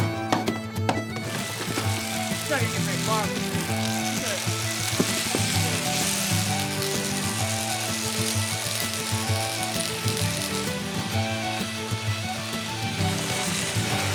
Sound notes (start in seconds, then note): 0.2 lively music; 5.8 machine buzzing; 11.2 lively music